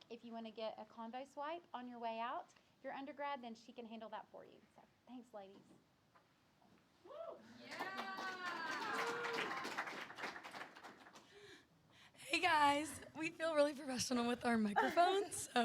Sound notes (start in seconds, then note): 7.5 audience applause